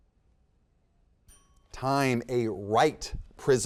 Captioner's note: timer chimes